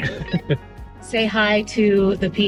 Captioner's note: laughing